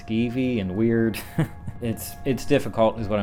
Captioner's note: laughs